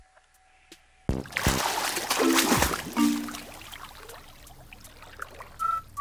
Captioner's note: water splashing with music